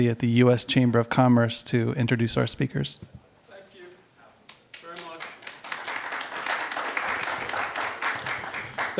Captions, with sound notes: at the US Chamber of Commerce to introduce our speakers. (applause)